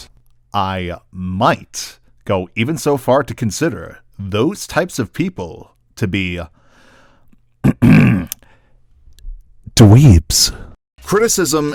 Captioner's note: ahem